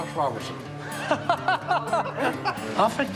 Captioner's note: laughter